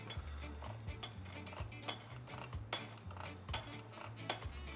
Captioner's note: metal clanking